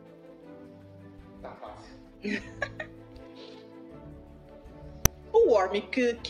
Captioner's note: laughter